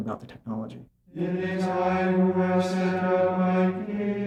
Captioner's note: chanting